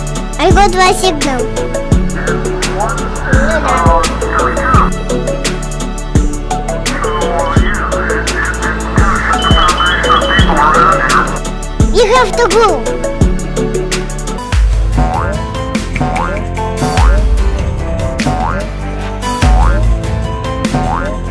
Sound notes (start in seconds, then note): 1.9 real radio speak